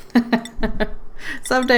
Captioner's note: laughs